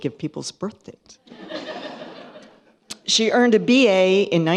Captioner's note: laughter